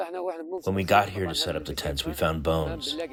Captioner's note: through translator